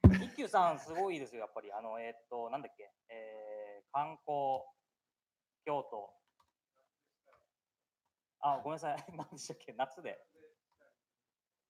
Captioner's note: speaking japanese